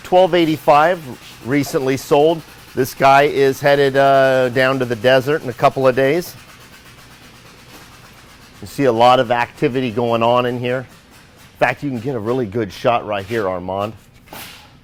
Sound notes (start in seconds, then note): 6.6 machine thumping; 14.6 metal clanks